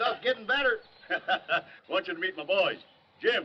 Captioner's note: laughs